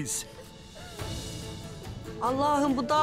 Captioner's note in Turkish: Ağlama sesleri